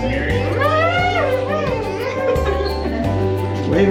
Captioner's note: pointless Annoying sound